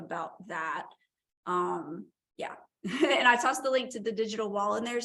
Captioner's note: laughter